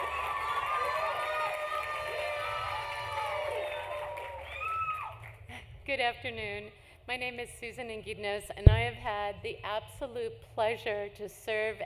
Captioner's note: cheering; applause